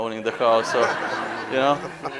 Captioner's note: laughing